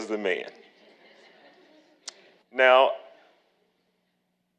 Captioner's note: audience laughing